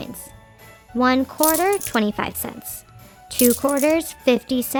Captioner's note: coins clinking